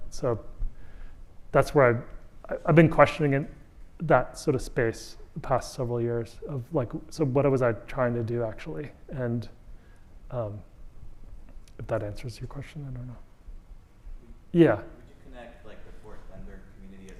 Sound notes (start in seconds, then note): 11.8 audience member speaking